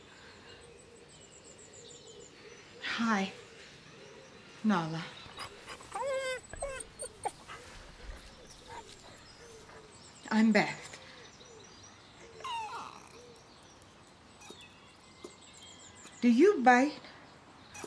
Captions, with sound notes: Hi... Nala. [whining] I'm Beth. [whining softly] Do you bite?